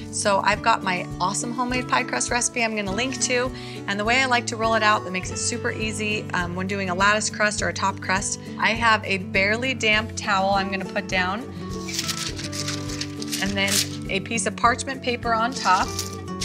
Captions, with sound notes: So I've got my awesome homemade pie crust recipe I'm gonna link to, and the way I like to roll it out that makes it super easy when doing a lattice crust or a top crust, I have a barely damped towel I'm gonna put down. (paper rustling) And then a piece of parchment paper on top